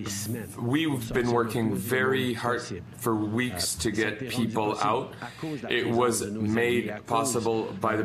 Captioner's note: speaking French